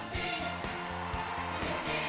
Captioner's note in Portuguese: audience cheering